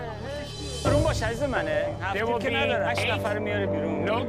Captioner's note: trader speaking foreign language